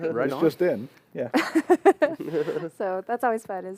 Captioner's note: laughter